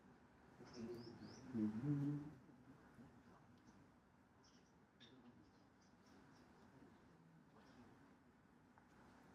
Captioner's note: humming